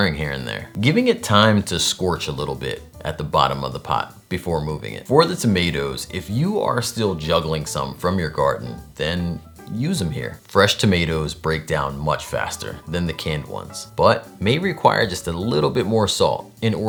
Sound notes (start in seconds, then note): none